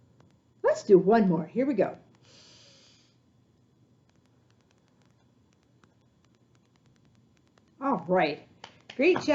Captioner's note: breathing